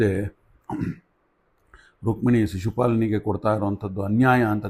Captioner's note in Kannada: ಗಂಟಲು ಸರಿಮಾಡಿಕೊಳ್ಳುವಿಕೆ